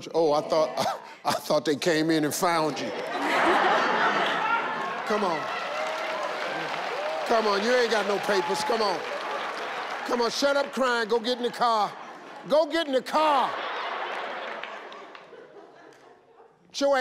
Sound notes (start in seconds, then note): 3.0 all laugh; 13.6 audience laugh